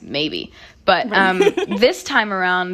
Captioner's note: laughter